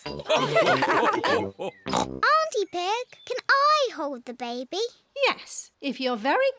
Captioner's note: all laugh